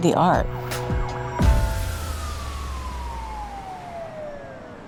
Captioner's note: siren wails